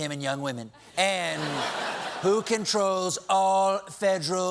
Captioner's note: laughter